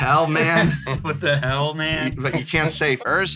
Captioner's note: laughs